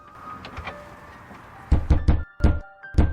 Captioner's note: pounding on the door